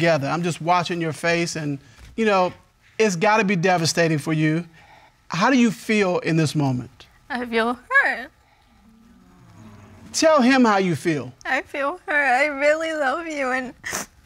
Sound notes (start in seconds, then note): 7.0 tearfully